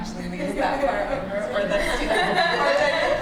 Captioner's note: laughter